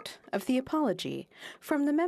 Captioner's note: speaking French